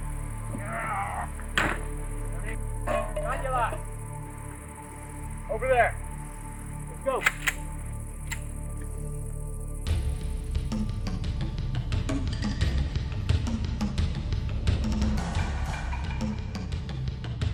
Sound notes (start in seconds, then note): 2.2 indistinct shouting; 9.4 tribal drum instrumental